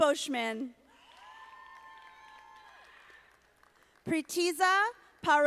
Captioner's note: audience applauding